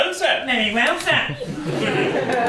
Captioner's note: mocking